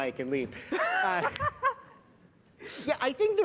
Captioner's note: laughter